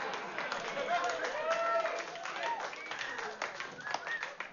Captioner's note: vítores y aplausos